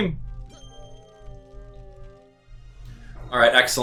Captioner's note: gaming sounds; instrumental music